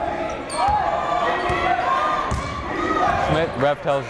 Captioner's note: yelling